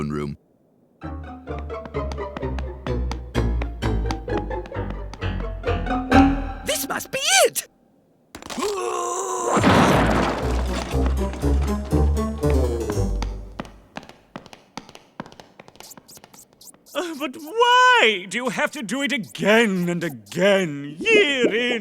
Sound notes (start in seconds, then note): 8.5 grunting; 13.1 tapping